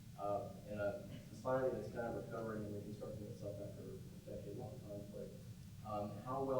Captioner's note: murmurs